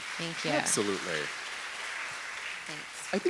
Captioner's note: audience applauding